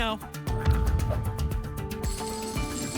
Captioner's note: thump; coins jingling